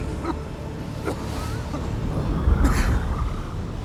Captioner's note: coughing